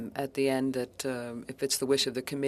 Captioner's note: speaking French